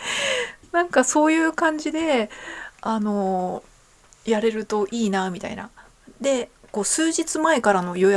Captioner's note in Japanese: 息をのむ音